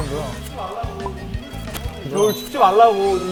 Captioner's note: tap, tap